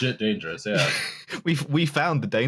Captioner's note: laughs